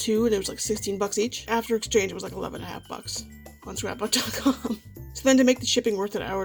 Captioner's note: laughs